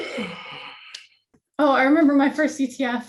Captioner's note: gasps